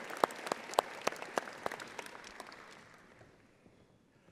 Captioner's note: audience applauding